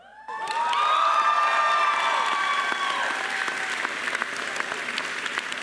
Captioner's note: students cheering and applauding